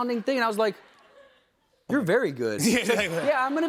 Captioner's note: laughs